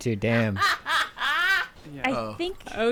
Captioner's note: laughing